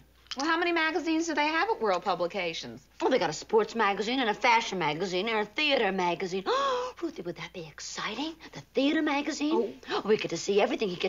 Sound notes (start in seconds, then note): 6.5 gasps